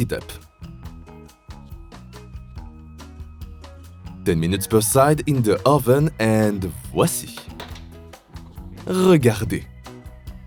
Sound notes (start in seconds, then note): 8.9 french